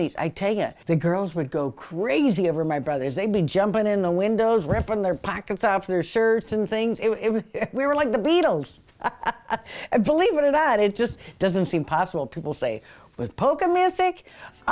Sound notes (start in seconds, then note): 9.0 laughs